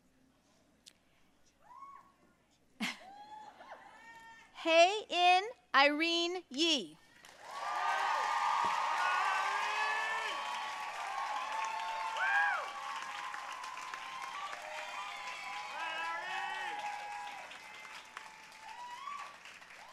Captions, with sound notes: Hye-In Irene Yi. (audience cheering and applauding)